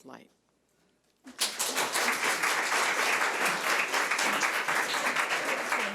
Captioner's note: audience applauds